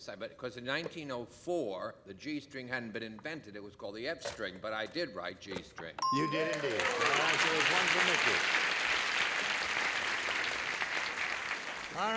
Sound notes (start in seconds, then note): 6.0 bell; 6.1 applause